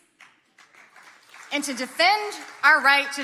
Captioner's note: audience clapping